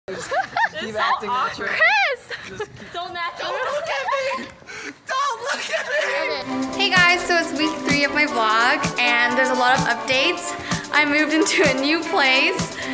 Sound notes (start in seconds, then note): 0.1 laughs